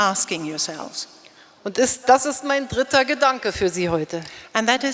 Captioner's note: speaking in German